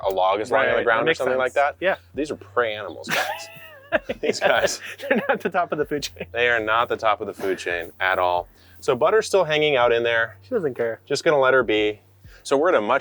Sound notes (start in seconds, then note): 2.9 laughing